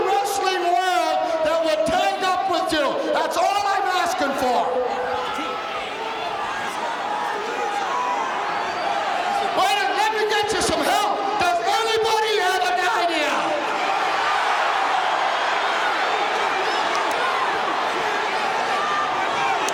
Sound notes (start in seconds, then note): 5.5 audience shouting; 13.8 audience cheering